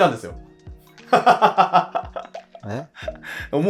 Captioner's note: laughing